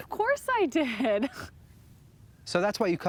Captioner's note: laughs